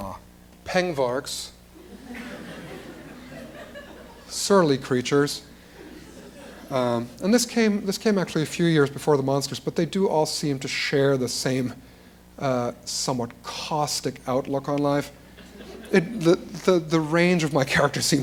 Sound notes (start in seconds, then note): 1.8 laughter